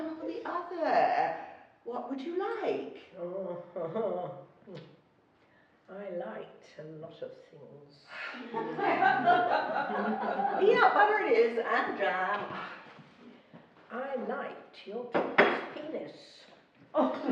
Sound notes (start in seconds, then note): 4.5 murmuring; 8.2 laughing; 8.5 sighing